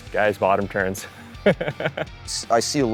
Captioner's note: chuckling